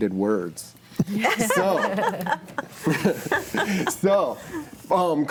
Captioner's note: group laughing